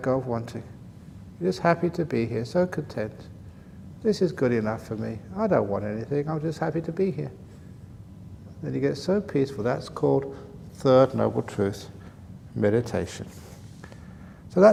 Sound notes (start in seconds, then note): none